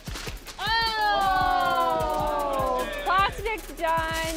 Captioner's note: all exclaiming